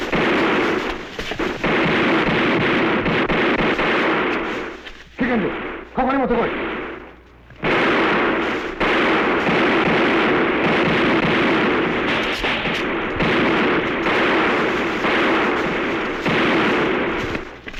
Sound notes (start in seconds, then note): 5.0 non-english speech; 6.7 gunfire